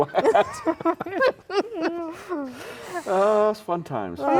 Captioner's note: laughing